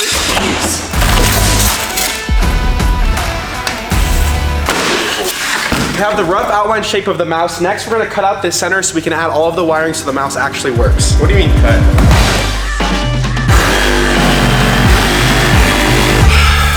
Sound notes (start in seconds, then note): 0.0 foam rips; 0.1 foam clatters to floor; 4.6 foam clatters to floor; 12.3 punches foam to clatter on floor; 13.6 intense music